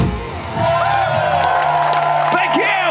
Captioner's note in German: Schlussakkord; Jubel